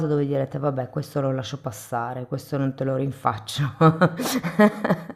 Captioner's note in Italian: risate